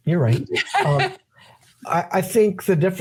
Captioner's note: laughing